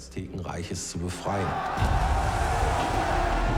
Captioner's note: screaming